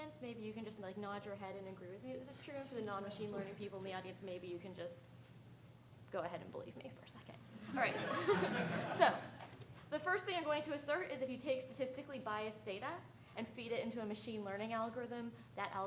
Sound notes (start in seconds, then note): 2.2 speaking faintly; 7.7 audience laughing